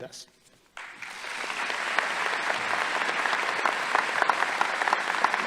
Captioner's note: audience applauding